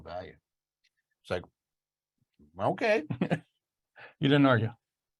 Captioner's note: laughs